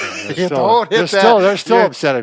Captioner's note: laughter